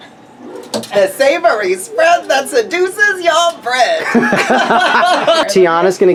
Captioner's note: laughs